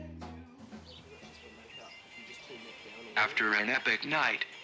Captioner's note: birds twitter, rock music plays in distance